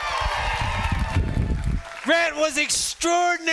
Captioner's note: students cheering